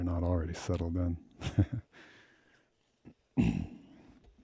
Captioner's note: laughs